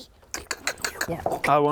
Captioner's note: clink clink clink clink clink